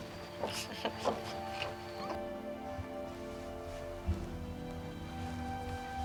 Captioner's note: Renee chuckles